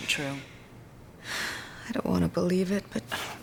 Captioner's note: sighing